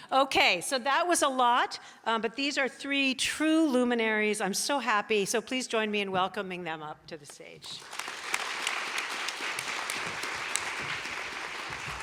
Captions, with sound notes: Okay, so was a lot, but these are three true luminaries. I'm so happy, so please join me in welcoming them up to the stage. (audience applauding)